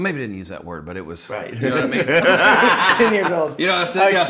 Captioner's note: laughing